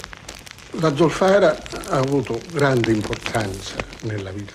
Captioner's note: speaking italian